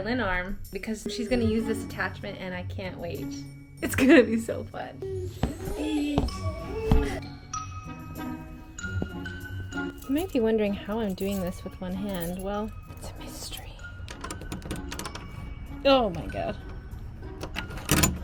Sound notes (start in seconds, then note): 5.3 boots stomping; 17.2 lock rattling; 17.2 unlocking door